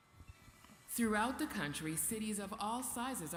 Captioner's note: voiceover